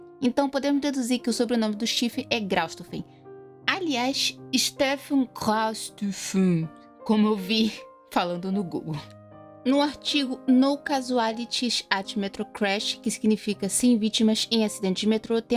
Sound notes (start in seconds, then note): 3.3 non-aggressive german accent